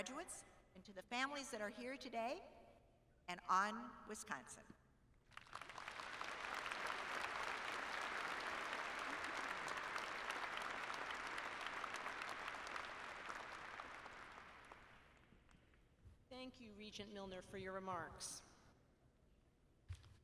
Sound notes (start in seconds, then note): 5.2 applause